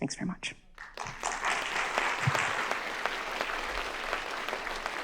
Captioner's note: crowd claps